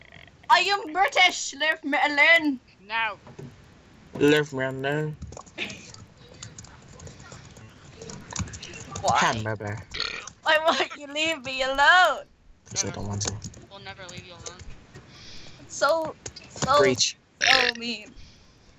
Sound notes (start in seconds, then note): 9.9 burps; 17.4 burps